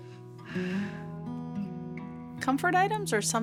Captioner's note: sighs